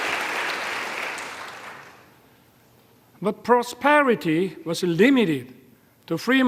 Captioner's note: applause